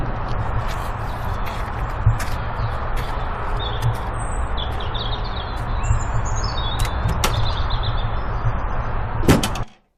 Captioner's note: car stops, 3 doors open and close; footsteps on gravel, boot opening